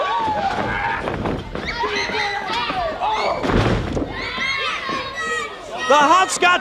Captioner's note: fans cheer; Hot Scotts grunt